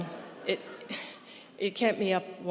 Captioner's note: audience laughing; laughs